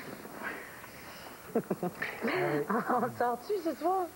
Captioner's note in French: Rire